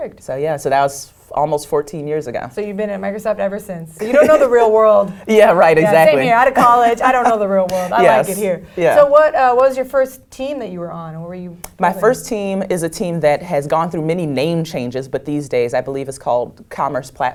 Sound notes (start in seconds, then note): 4.0 laugh